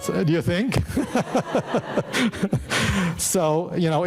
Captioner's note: laughs